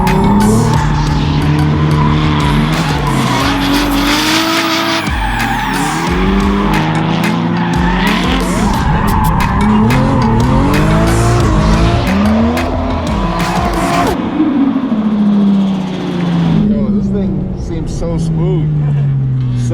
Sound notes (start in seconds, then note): 0.1 engine revs; 2.5 tires squealing; 3.9 engine revs; 5.1 tires squealing; 14.2 engine revs